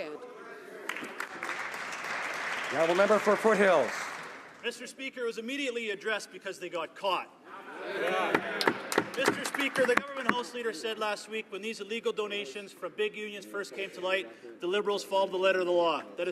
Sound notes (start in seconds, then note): 10.9 some Applause